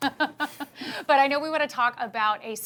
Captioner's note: chuckles